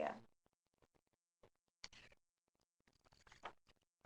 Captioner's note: silence